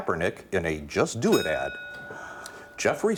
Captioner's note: ding